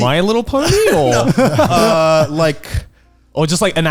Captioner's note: laughing